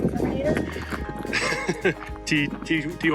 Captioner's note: laughing